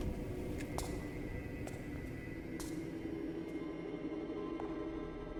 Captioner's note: footsteps tapping